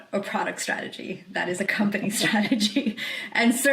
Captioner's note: laughs